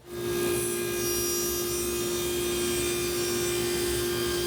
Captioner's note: electric saw whirring